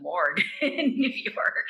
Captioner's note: laughing